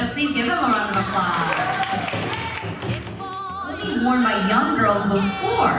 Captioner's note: group applauding